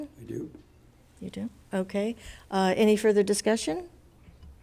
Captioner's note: none